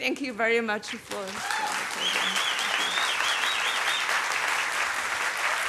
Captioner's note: applause